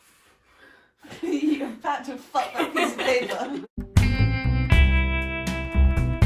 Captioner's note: laughing